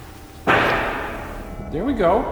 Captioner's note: knock thuds